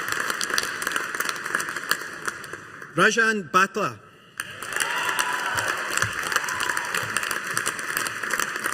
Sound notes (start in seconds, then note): 4.4 audience applauding